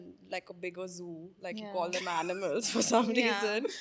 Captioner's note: laughing; laughs